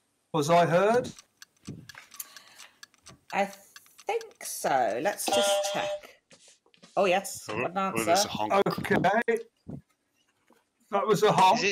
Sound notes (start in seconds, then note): 5.2 honking